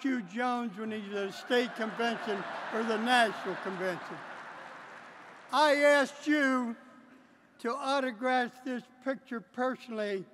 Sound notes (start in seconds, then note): 4.3 laughter